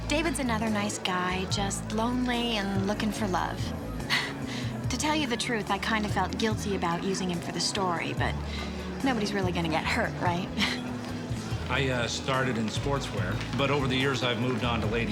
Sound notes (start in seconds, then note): 4.1 chuckles